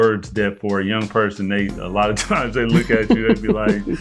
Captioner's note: chuckling